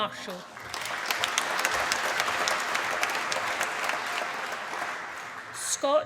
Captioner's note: applause